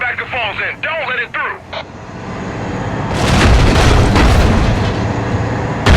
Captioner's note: gunfire